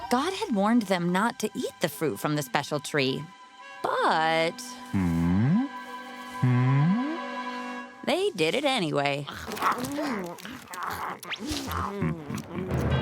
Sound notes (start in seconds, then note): 9.2 eating noises